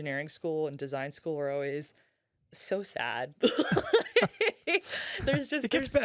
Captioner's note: laughing